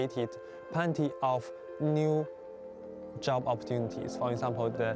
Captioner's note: speaking Chinese